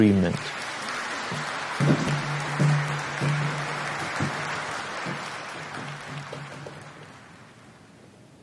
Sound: applause

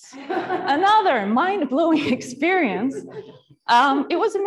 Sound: audience laughing

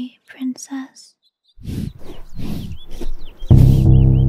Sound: heavy breathing

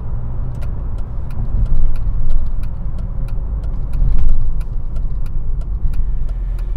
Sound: engine and turn signal noise

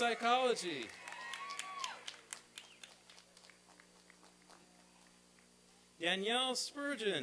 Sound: applause and cheering

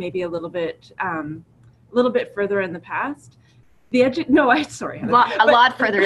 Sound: laughs

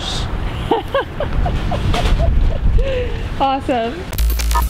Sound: laughing

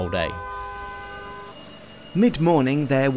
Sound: horn beeping

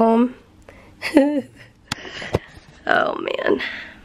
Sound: giggling

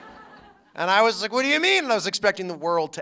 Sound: laughter

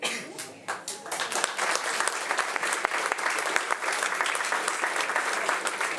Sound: audience applauding

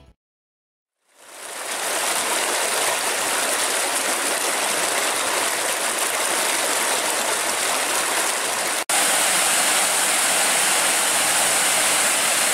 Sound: running water

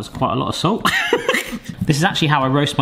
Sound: laughing

